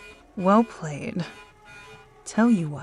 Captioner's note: swooshing Sounds; sirens in the distance